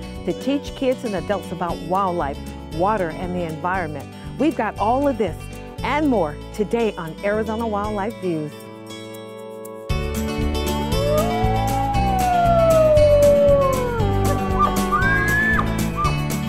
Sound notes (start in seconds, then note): 10.8 wolf howling; 14.2 elk bugling